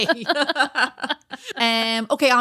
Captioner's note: laughing